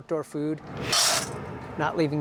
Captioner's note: food pellets clatter